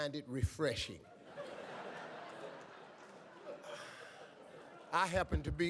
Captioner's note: audience laughs